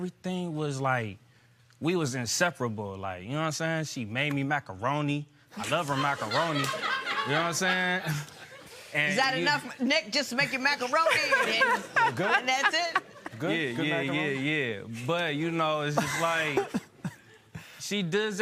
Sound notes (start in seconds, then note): 5.6 laughter